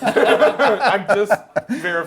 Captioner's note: group laughs